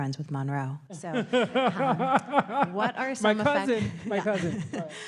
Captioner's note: laughs